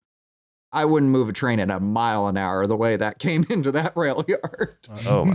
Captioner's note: laughing; chuckles